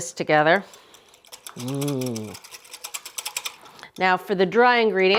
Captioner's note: whisk whooshing